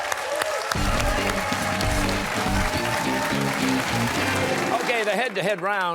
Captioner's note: cheers and applause